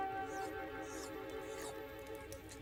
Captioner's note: munching